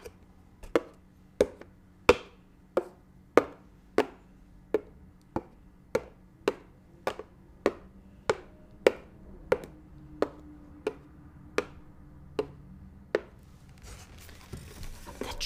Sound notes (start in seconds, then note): 5.6 ASMR tapping sounds